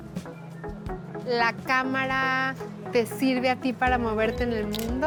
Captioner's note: speaking Spanish